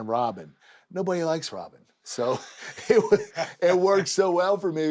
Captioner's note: laugh